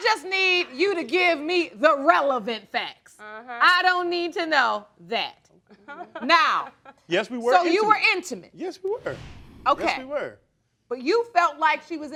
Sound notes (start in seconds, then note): 5.7 laughing